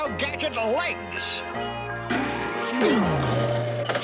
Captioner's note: none